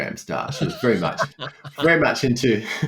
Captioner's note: laughter